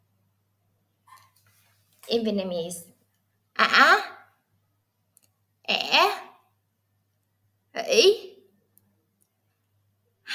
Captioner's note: Vietnamese